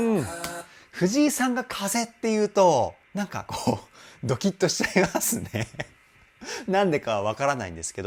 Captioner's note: laughs